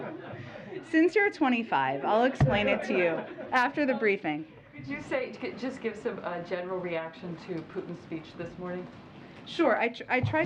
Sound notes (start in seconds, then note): 2.6 laughter